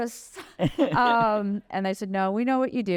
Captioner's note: laughter